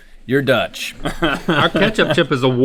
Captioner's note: laughing